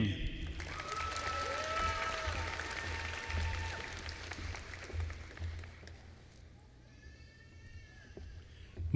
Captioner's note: applause